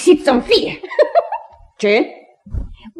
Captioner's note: the girl laughs